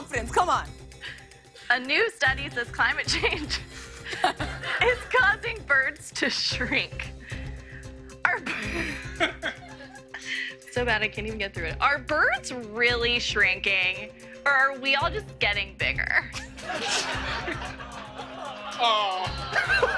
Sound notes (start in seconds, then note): 8.3 laughs; 16.3 laughter; 17.1 audience awws